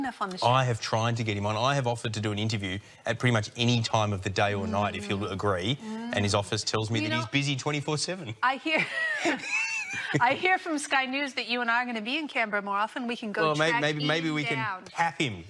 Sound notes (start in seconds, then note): 8.8 both laugh